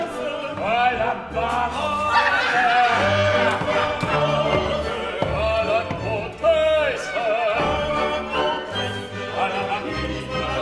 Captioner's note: general laughter